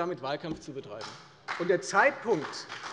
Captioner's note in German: Beifall bei der FDP